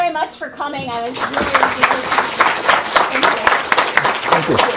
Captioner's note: applause